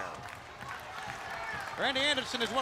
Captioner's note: crowd cheering